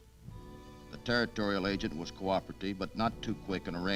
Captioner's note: none